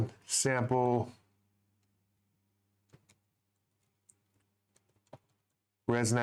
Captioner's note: typing sounds